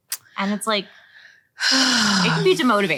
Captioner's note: sighing